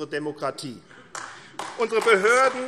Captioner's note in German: Beifall AfD